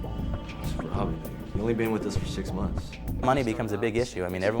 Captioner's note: scoffs